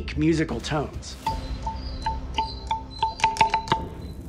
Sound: pillar ringing

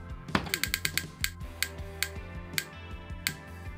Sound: clock ticking

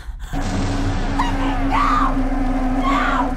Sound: Red sister screams

